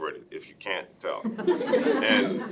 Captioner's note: laughing